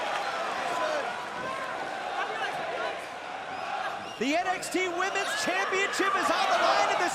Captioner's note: crowd chatter